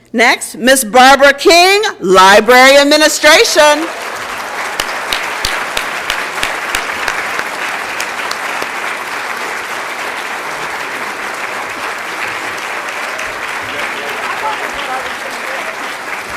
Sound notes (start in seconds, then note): 3.7 applause and Cheering